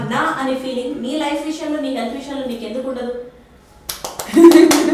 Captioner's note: laughs and claps